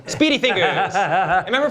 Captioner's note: laughter